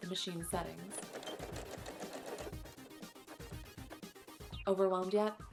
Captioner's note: machine parts moving